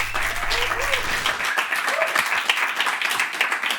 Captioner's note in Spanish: Aplausos